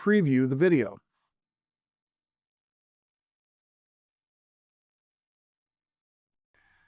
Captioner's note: silent clip playing